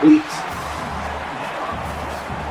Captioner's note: crowd Noises